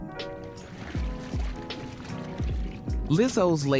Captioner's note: gentle music continues; water sloshing